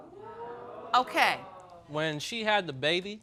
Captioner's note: audience moans